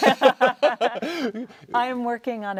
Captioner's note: both laughs